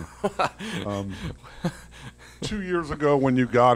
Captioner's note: laughing